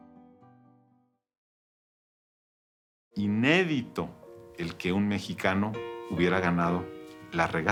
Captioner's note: in Spanish